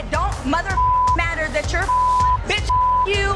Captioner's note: beep